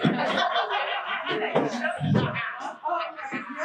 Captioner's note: people laughing